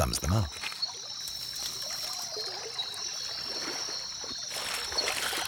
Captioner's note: birds chirping